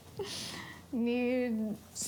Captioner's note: chuckles